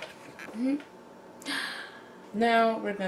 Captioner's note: inhales